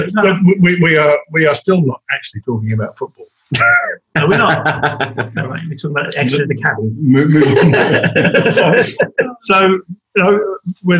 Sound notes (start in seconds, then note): 3.5 laughs; 9.7 they laugh